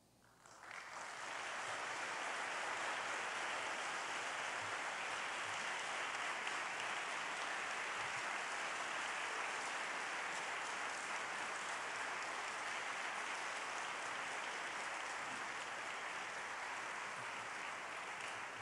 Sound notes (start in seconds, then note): 7.7 applause